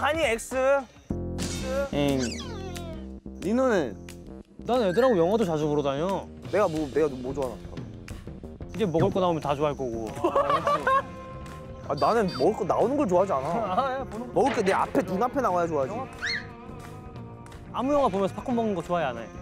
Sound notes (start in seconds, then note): 10.1 laughs; 17.2 hmph